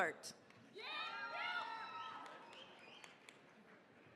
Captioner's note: cheering, applause